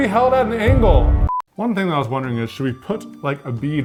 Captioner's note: screen beeps